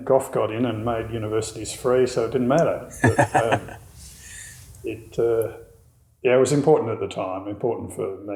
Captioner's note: laughing